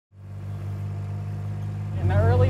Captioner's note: engine humming